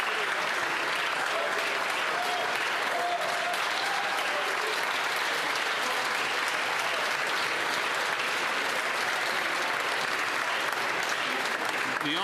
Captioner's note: applause